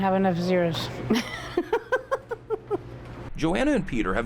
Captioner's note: laughing